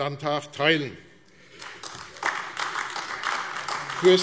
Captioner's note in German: Beifall AfD